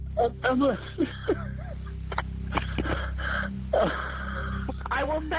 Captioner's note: sobbing